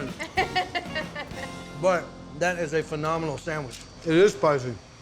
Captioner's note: giggling